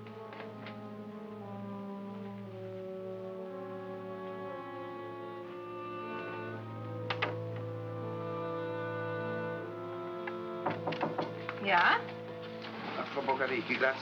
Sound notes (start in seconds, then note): 0.0 tense music; 10.6 knocking on door; 12.9 speaking in German